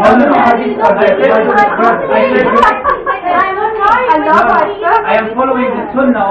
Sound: multiple people yelling

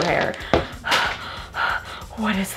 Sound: panting

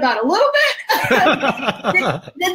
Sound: both laugh

